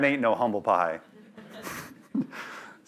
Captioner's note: laughter